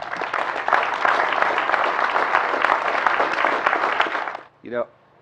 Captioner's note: applause